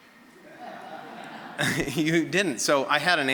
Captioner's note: audience laughing